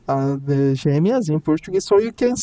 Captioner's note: speaking in Portuguese